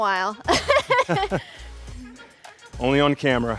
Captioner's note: laughs